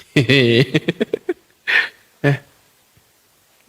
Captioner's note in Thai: เสียงหัวเราะ